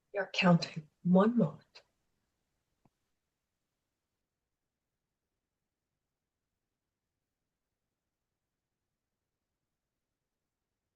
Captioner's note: pause